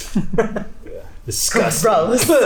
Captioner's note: laughs